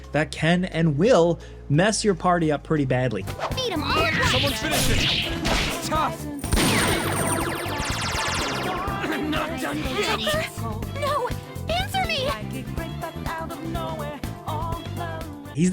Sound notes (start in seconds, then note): 6.5 attack blasting and whirring